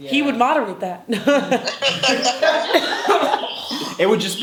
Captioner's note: laughing